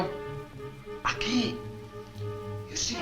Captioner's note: Mario speaks Spanish